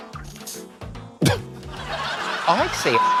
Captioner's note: laughs